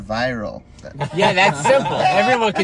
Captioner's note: laughing